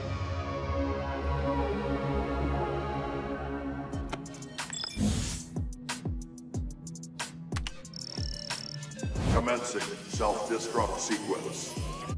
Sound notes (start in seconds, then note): 4.5 beeping